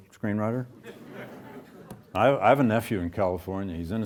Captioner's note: audience chuckles